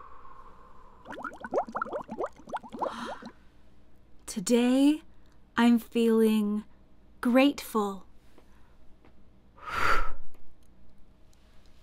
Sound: big breath in and out; bubbling noise; gasp; blowing noise

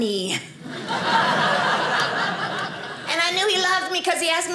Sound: audience laughing

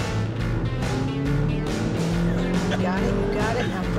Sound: engine accelerating

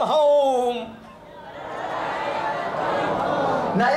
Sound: audience repeats in english

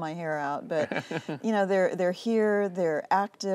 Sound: laughter

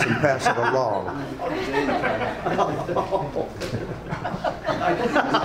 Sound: audience laughs

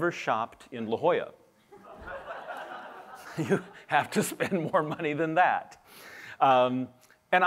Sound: laughter

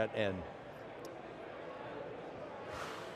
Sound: crowd murmurs; exhales sharply

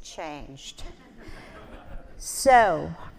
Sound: audience laughing

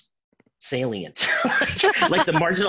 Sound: laughing

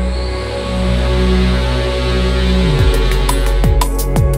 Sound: machine buzzing

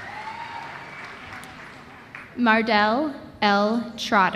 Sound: applause

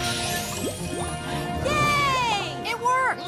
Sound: bubbling sounds

